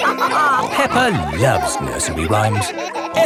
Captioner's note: all laughing